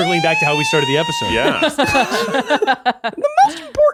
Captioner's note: laughing